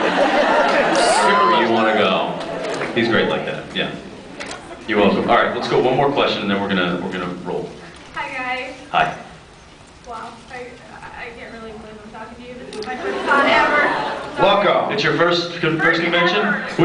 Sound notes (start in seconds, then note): 0.0 laughs; 13.5 scattered laughs